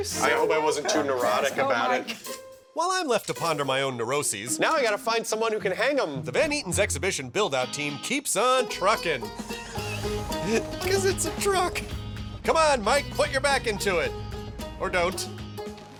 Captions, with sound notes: I hope I wasn't too neurotic about it. While I'm left to ponder my own neuroses... Now I got to find someone who can hang them. ...The Van Eaton's exhibition build out team keeps on trucking... [LAUGHS] Because it's a truck! Come on, Mike, put your back into it. Or don't.